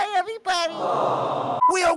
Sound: audience awww

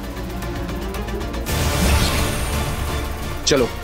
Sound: sound effect playing

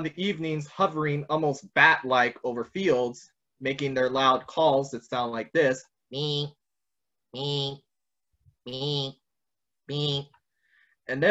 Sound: vocalizes

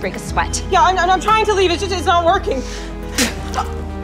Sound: woman spits

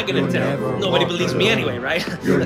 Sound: chanting; chanting

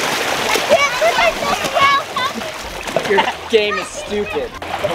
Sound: shouting

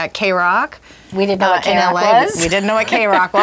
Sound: laughs

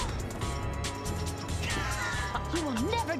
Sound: gasps

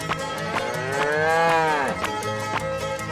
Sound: mooing

